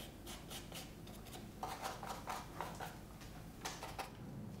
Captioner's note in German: Schabende Pinselgeräusche